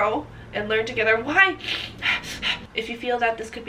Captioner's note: sniffling